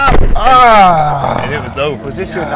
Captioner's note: Spice grunting